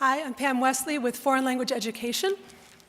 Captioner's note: none